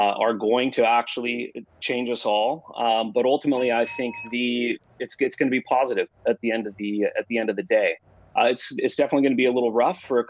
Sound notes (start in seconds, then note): 3.5 bell dings